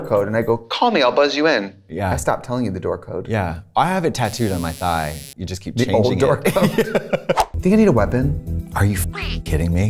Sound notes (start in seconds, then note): 6.5 laughing